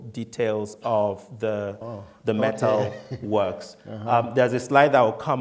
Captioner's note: laughing